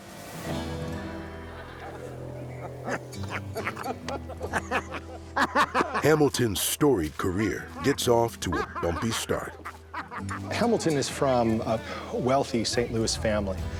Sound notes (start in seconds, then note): 3.1 men cackling